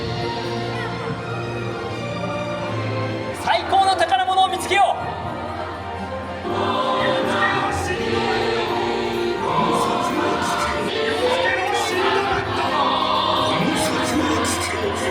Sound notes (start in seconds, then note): 0.1 majestic orchestral music; 3.7 characters speaking Japanese; 8.4 characters singing in Japanese